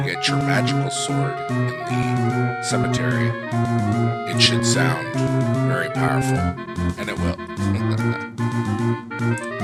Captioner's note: laugh